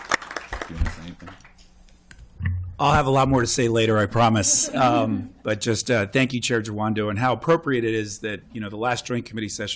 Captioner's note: applause